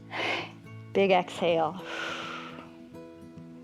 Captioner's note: exhales